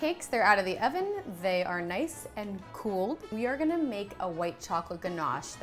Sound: none

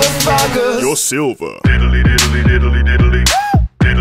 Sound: woo

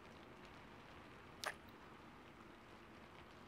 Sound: kiss

